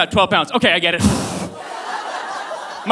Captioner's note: blows into microphone